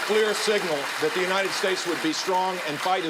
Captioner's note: applauding